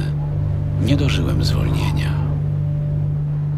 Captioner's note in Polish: szum wiatru